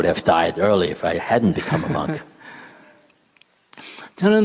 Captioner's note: laughter